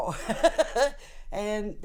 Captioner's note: laughs